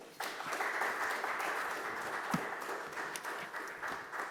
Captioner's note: audience applauding